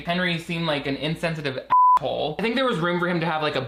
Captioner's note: beeps